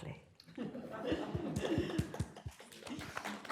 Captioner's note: laughter